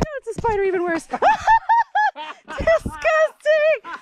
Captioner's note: laughing